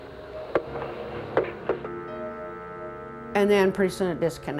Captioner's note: call disconnects